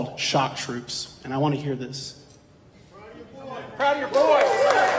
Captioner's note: audience members chatting; audience applause